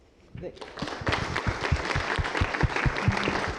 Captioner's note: applause